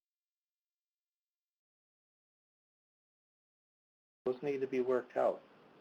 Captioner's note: audio cuts out